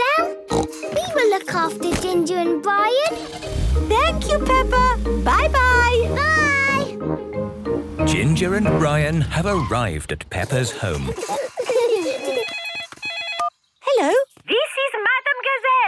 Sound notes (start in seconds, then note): 0.5 snorting; 10.4 giggling; 12.1 phone ringing